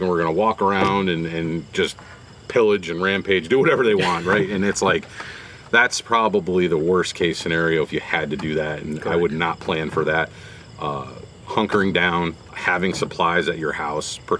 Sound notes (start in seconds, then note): 3.5 laughs